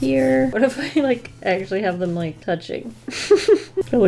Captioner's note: laughs